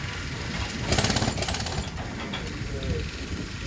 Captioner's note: drilling